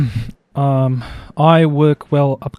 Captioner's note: clears throat